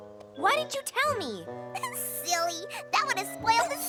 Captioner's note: laughs